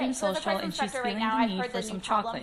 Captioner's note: voiceover